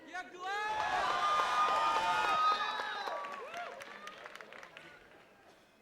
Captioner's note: attendees cheering and clapping